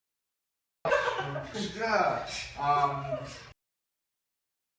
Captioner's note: laughing